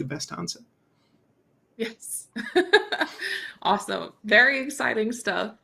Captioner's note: chuckles